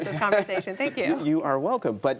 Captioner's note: laughter